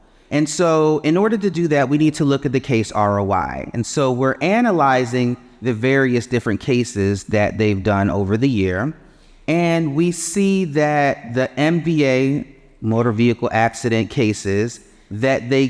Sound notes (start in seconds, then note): none